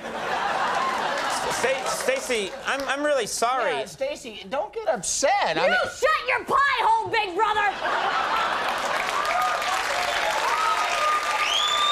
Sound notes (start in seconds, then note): 0.0 audience laughing; 1.7 stuttering; 7.5 audience laughing and cheering